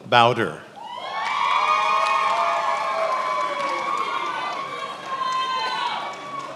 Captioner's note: attendees applauding and cheering